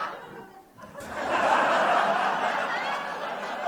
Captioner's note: laughter